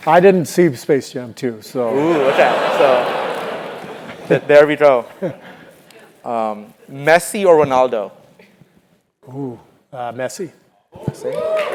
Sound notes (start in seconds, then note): 1.9 laugh; 11.3 applause